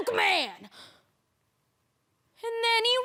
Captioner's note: sharp breaths